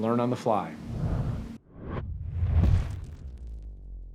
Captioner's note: whoosh